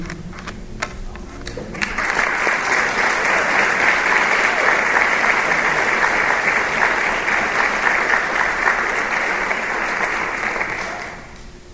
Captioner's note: applause